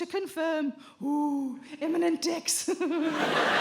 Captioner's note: chuckles